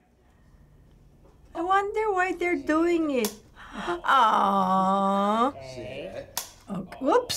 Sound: gasps

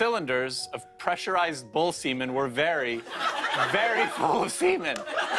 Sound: laughter

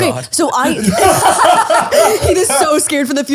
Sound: all laughing

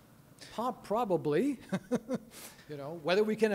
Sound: chuckling

